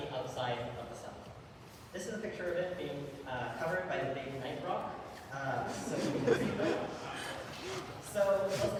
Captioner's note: audience laughter